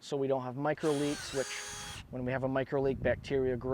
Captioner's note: tools whirring